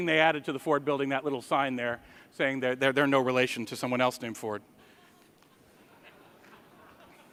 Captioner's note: laughter